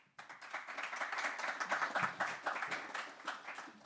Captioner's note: audience clapping